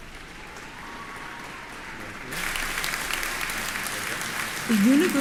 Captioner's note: applause